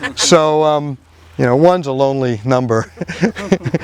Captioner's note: laughing